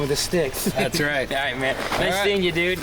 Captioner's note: participant chuckling